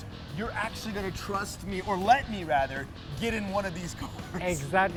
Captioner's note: laughs